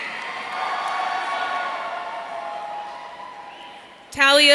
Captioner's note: audience cheering